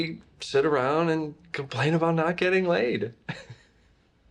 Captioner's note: laughs